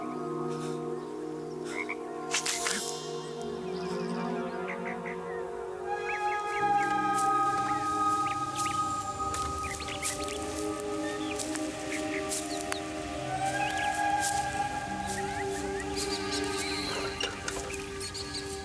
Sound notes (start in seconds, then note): 2.2 gasping; 6.3 ethereal music